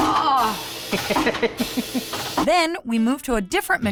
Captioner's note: laughing